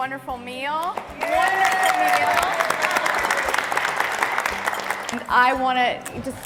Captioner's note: cheers and applause